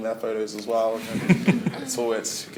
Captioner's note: laughter